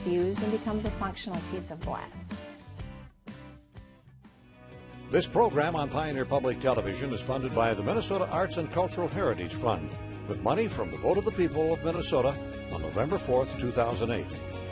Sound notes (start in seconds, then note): 5.1 voiceover